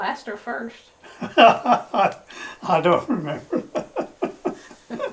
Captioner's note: laughs